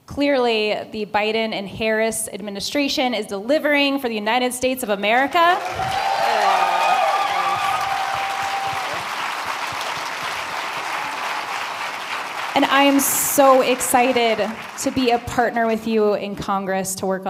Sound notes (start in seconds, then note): 5.5 applause